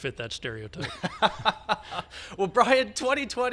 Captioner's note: laughs